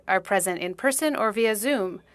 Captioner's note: speaking French